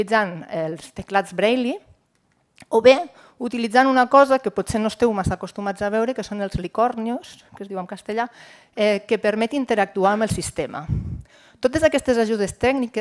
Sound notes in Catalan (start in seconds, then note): none